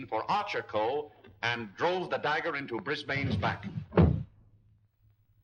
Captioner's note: thump